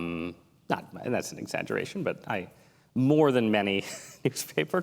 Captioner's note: laughs